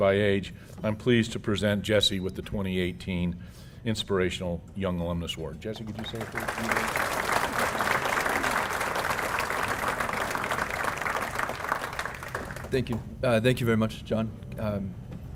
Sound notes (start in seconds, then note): 11.0 applause